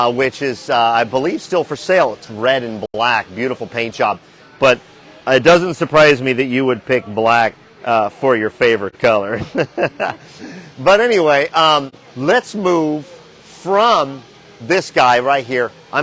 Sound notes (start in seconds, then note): 9.2 chuckling